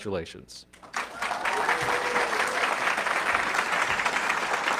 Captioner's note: audience clapping